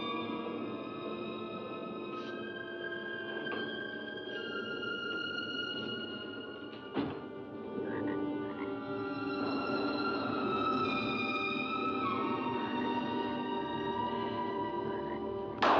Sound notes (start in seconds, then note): 0.0 eerie music; 6.8 door closes; 7.8 frog croaks; 9.4 eerie music; 9.4 thunder rolls in distance